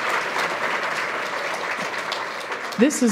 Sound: applause

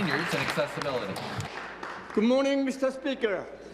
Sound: applause

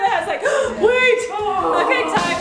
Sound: gasp; drum roll

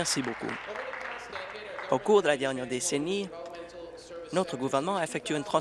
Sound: applause

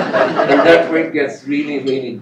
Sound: laughter

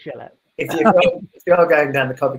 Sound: laughing

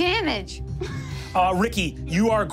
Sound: laughing

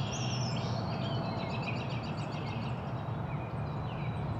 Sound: birds chirps

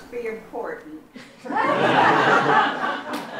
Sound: laughter

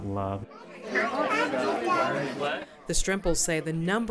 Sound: crowd noise

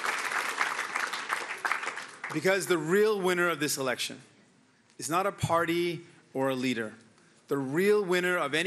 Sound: applause

